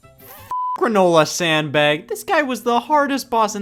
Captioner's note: beep